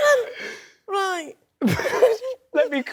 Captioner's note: laughs